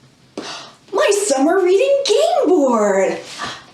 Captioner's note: gasp